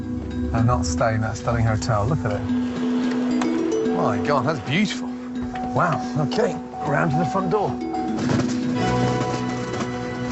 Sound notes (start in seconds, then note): 7.5 car beeping